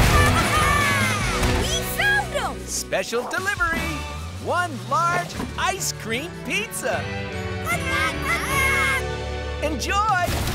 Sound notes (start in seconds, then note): 7.6 penguins cheer